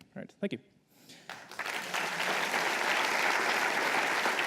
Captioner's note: applause